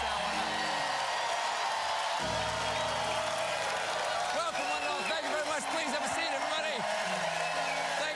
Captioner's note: cheers and applause; band playing